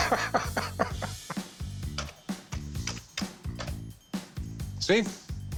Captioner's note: chuckling; keys clacking